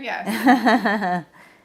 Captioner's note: laughs